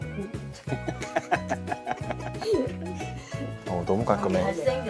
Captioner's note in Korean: 갑자기 터져 나오는 웃음